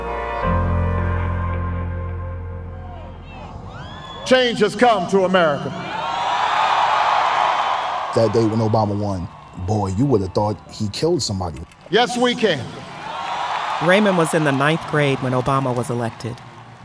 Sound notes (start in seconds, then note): 3.2 crowd screaming; 6.3 crowd cheering; 13.0 crowd cheering